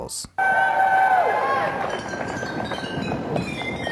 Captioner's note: crowd cheers